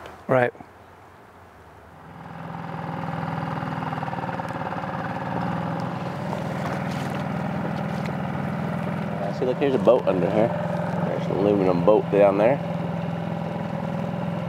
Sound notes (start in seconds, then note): 2.4 boat engine chugging; 6.9 water gently splashing